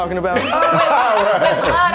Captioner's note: all laughing